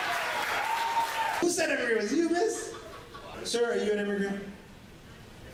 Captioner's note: applause; laughter